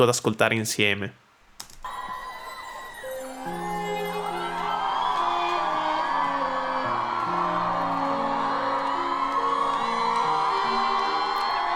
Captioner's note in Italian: Applauso